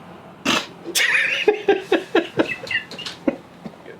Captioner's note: laughing